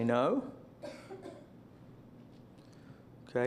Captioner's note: silence